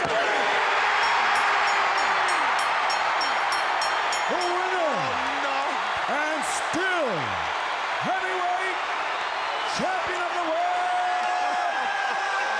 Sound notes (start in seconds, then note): 0.8 bell rings; 1.3 crowd cheers